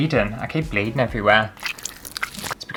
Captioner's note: blood Squelching